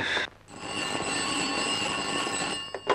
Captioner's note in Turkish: Telefonun zil sesi